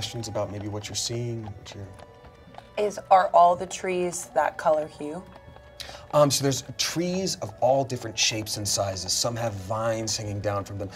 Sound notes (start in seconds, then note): none